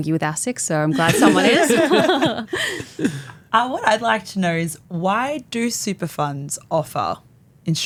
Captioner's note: laughter